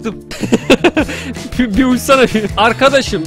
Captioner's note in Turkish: Gülerek